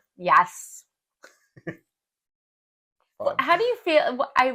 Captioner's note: laugh